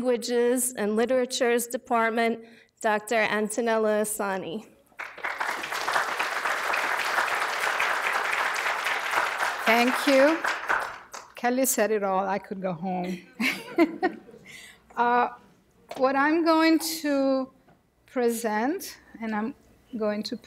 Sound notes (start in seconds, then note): 5.0 audience applause; 13.2 chuckles